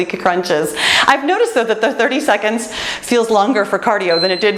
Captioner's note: timer beeps